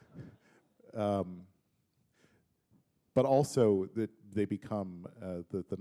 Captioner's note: chuckle